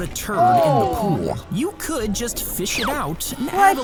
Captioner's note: both groaning